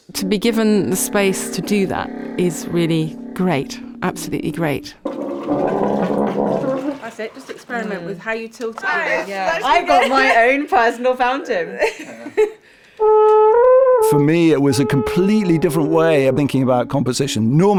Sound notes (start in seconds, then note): 4.7 gurgling and bubbling; 11.7 laughter